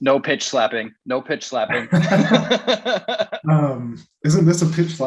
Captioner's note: giggles